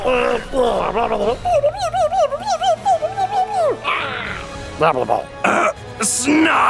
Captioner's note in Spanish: ruidos de trasgo